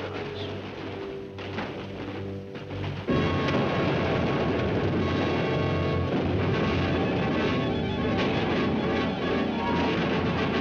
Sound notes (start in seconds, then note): 2.6 dramatic music; 4.5 artillery firing; 4.5 dramatic music